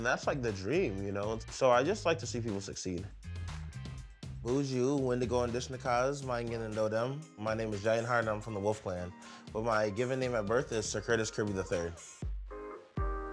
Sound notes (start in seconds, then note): 3.7 speaking Ojibwe; 13.0 upbeat music